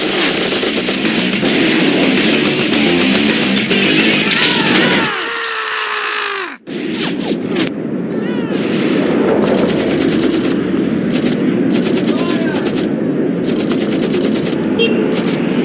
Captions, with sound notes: [GUNSHOTS] Woah! [SCREAMS] Woah! Fire!